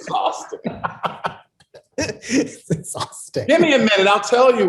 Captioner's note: laughs